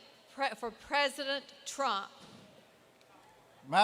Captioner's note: none